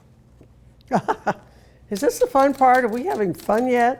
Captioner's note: laughing